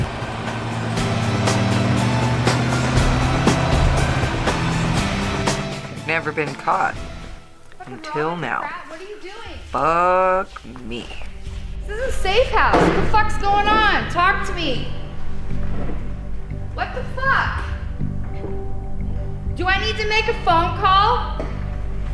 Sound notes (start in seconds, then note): 5.9 Felina narrating; 10.1 Felina narrating